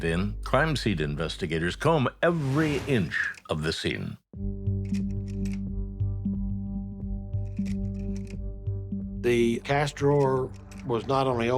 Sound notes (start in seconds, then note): 4.0 camera snapping; 4.3 gentle solemn music